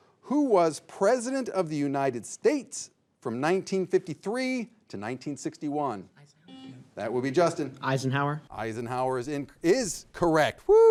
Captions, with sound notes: Who was president of the United States from 1953 to 1961. (signal beeps) That would be Justin. - Eisenhower. Eisenhower is correct.